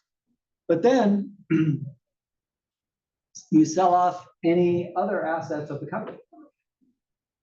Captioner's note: cough